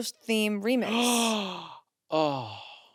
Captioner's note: gasps